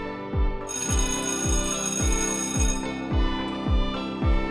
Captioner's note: school bell rings